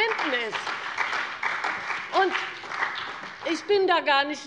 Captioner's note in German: Beifall bei der CDU und dem BÜNDNIS 90/DIE GRÜNEN